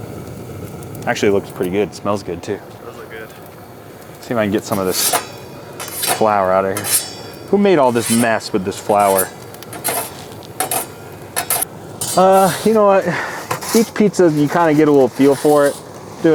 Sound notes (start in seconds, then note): 10.2 metal scraping